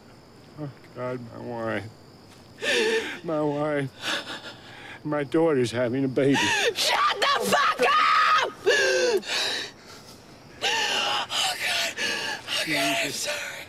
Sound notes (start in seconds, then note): 2.6 sobbing; 6.3 screams; 8.6 breathes heavily, sobs